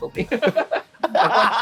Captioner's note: both laughing